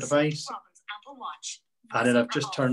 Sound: voiceover

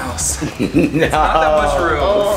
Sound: chuckling

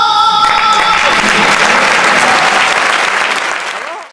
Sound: shouts and applause

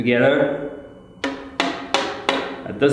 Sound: toc toc toc

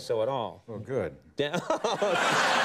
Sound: Conan laughing; audience laughing

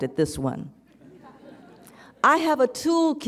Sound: audience chuckles

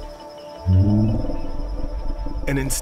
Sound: soft bellows

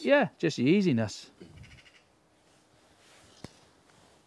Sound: bird chirps

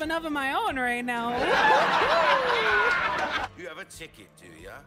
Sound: canned Laughter

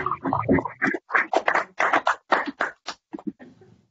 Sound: applause

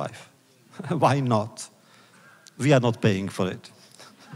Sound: laughs; laughter

